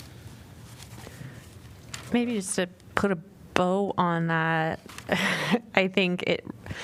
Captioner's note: laughter